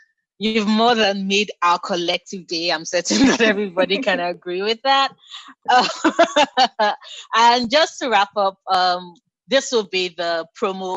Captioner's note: laughter